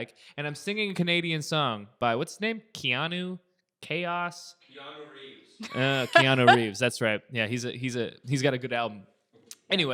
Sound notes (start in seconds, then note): 4.5 male Voice